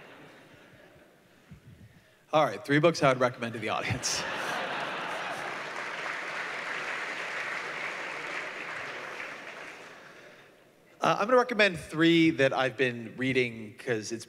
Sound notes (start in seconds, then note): 3.8 laughter; 4.7 applause